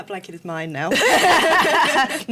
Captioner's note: laughter